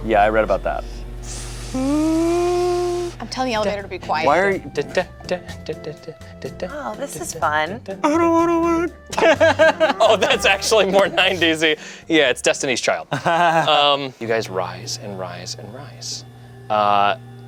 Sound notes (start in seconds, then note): 1.2 imitates whirring; 4.4 hums elevator music; 9.1 everyone laughs